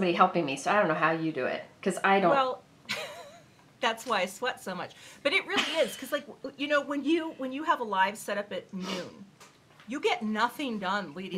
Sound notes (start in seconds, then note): 2.9 chuckling